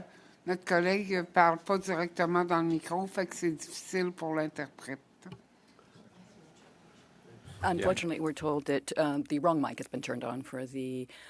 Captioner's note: speaking French